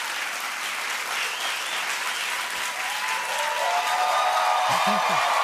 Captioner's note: cheering, whistling, and applause; nervous laugh